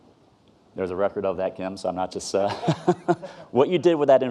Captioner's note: laughs